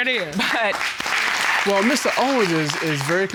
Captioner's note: chuckles